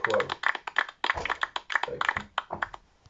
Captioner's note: premature applause